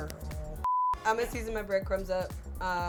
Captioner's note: color bars beep